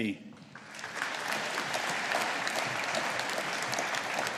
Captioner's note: audience applauding